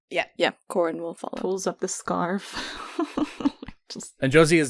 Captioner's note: laughs